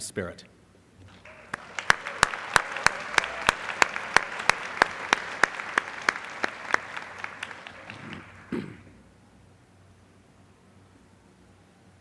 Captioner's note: applause